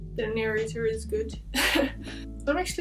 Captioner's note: laughs